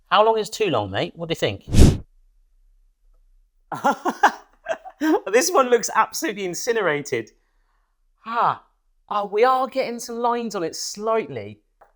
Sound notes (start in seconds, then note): 3.8 laughs